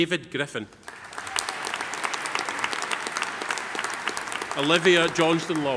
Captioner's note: audience applauding